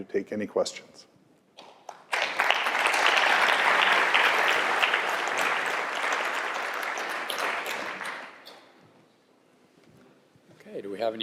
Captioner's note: applause